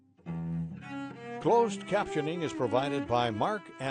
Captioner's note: voiceover